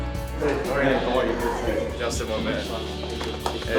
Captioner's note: mixed chatter